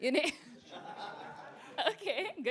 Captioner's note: laughter